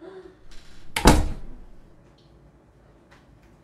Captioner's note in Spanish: Azotó